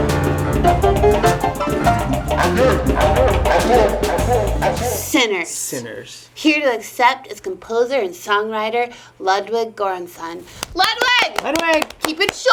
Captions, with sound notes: (foreign language being spoken) - "Sinners." - "Sinners." - Here to accept is composer and songwriter, Ludwig Göransson. Ludwig! (both applauding) - Ludwig.